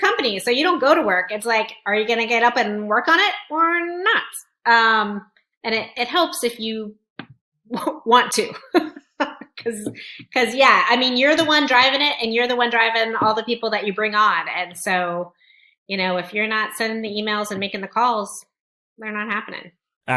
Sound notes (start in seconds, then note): 8.4 laughs